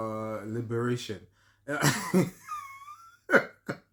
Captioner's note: laughter